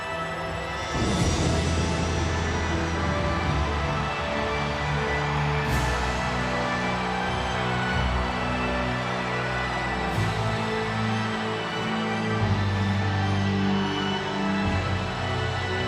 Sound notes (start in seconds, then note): 3.8 audience cheers